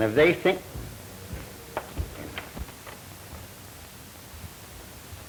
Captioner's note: footsteps thudding